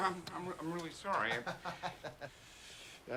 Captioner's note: chuckles